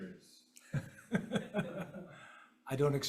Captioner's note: chuckles